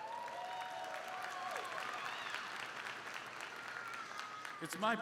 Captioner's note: crowd cheering; crowd clapping